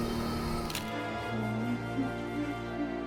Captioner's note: dramatic music; camera shutter clicking; dramatic music